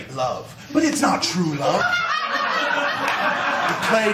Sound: laughter

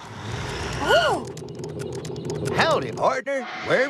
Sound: tires Screech!

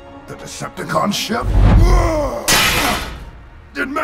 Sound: blades clang; gorilla bot grunts

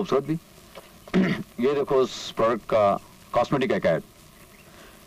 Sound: clears throat

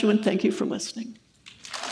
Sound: applause

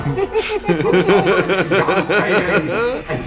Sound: laugh

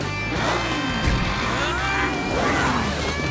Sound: grunting

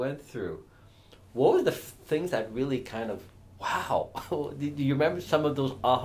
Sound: chuckles

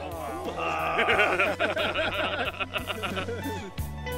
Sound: men groaning; laughing

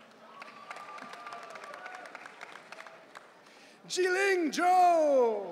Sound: audience cheering

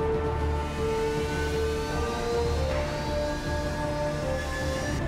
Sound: ship engines whooshing

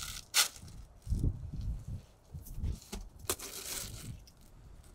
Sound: metal clinking

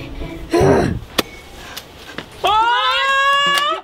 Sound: grunts

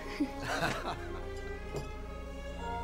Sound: family laughing

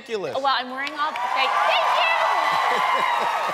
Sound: cheering

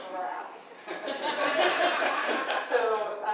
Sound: audience laughs

